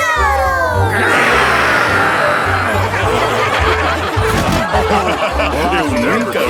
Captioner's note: laughing